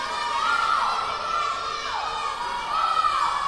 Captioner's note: yelling